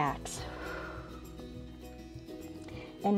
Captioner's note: exhales